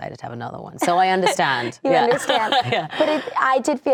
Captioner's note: laughing